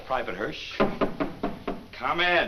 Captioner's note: knock on door